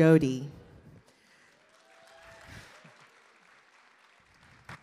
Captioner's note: audience cheers and applause